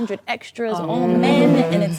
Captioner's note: ladies reacting